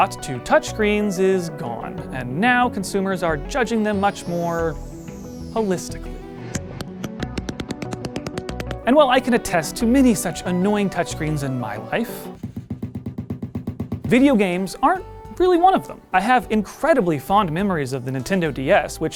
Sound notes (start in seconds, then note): 6.8 sound of angry touchscreen tapping; 12.4 sound of angry touchscreen typing